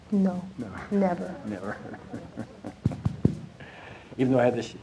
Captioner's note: chuckling